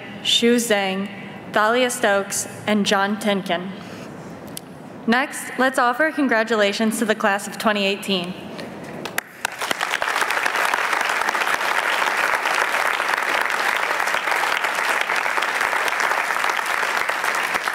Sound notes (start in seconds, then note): 9.0 applause